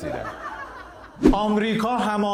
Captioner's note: laughter